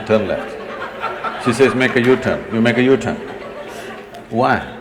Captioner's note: laughter